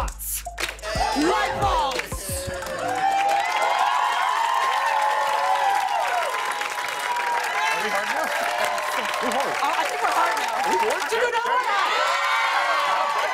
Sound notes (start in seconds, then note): 2.6 cheers and applause; 11.4 cheers and applause